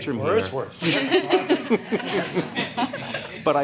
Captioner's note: laughter